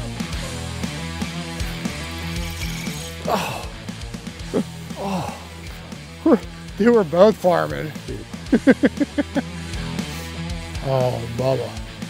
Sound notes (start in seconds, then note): 0.2 loud upbeat guitar music; 4.4 groans